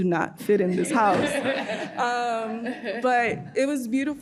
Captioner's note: audience laughing